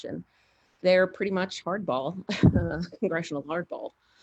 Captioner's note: laughs